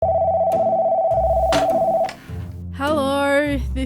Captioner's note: phone rings